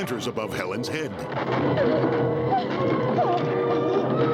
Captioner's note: Helen whimpering; music surging